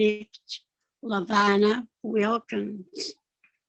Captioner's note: speaking Yakama